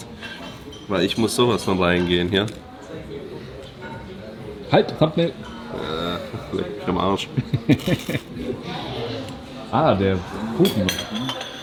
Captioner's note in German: gelächter